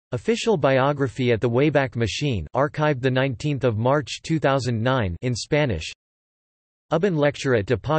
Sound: in Spanish

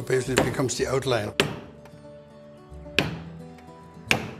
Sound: pin tapping

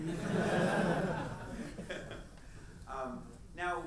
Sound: audience laughs

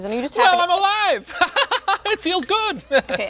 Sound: laughs

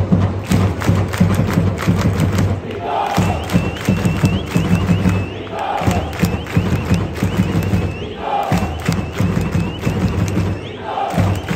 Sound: clap, clap, clap clap clap, clap clap clap clap

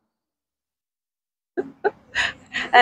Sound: laughing

